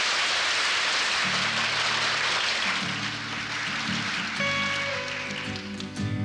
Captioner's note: applause